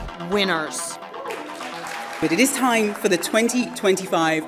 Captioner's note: applause